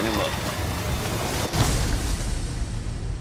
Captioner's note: gunshot